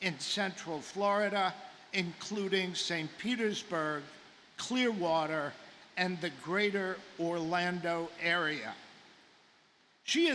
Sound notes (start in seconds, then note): none